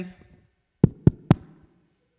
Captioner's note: knock Knock Knock